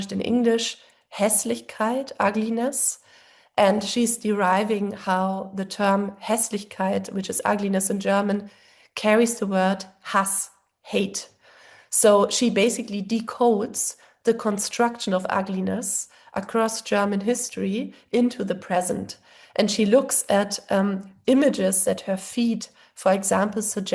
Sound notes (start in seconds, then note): 1.5 german; 5.9 german; 10.4 german